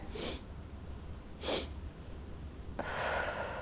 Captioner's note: inhales; exhales